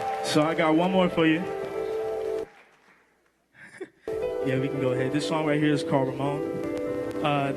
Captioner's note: applause